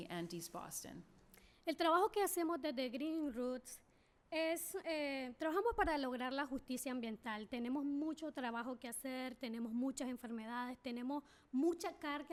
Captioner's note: speaking spanish